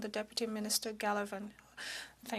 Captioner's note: speaking in French